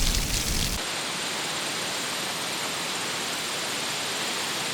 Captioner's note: rain splashing; wind and insect sounds